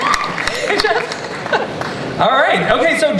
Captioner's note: laughs